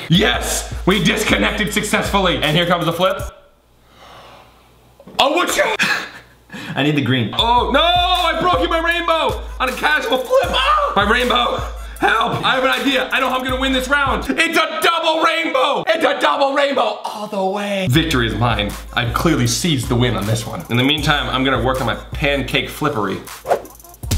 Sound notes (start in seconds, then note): 3.9 gasping; 5.1 laughing; 23.9 laughing; 23.9 splatting